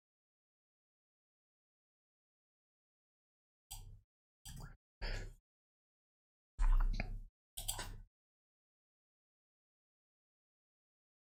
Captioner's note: blank Audio